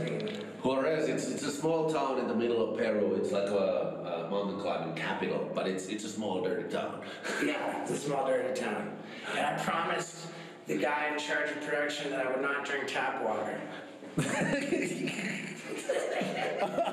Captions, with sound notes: - Huaraz, it's a small town in the middle of Peru. It's like a mountain climbing capital, but it's a small, dirty town. - Yeah, it's a small, dirty town. And I promised the guy in charge of production that I would not drink tap water. (laughing)